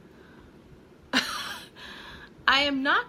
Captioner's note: laughing